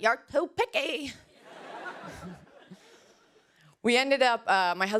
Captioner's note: laughter